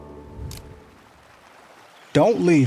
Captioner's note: camera shutter clicks